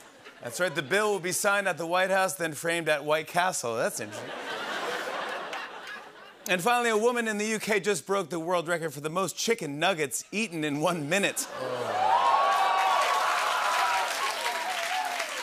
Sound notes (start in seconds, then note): 11.5 cheers and applause